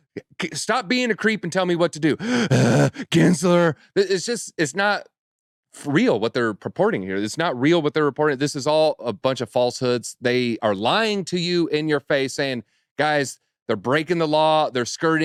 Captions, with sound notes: "Stop being a creep and tell me what to do." (imitates heavy breathing) Gensler? It's just-- it's not real what they're purporting here. It's not real what they're reporting. This is all a bunch of falsehoods. They are lying to you in your face saying, "Guys, they're breaking the law. They're skirting.